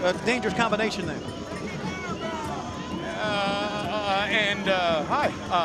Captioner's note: crowd chatter